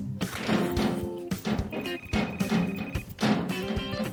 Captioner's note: phone ringing; door clanging